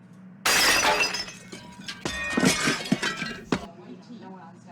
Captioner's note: dishes crashing